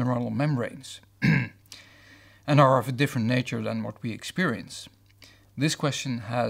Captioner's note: cough